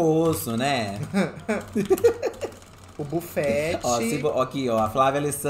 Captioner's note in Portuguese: risadas